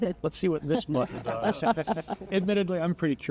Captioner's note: panel laughs